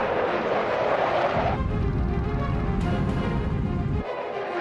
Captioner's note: engine whooshing; suspenseful music